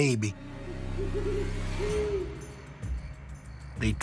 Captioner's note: owl hoots